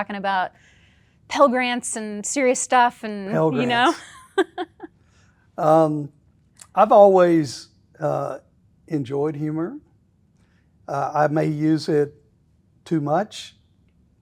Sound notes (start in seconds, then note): 3.3 laughing